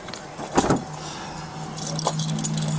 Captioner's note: door lock clicks; door clicks shut; keys jingle